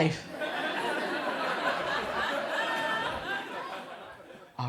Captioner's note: crowd laughs